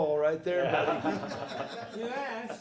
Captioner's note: group laughing